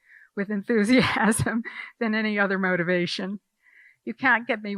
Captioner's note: laughing